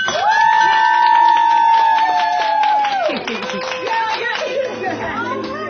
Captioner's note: cheering